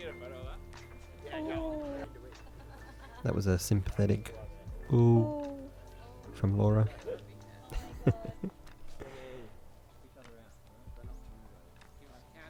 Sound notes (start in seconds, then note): 7.7 chuckles; 9.8 gentle music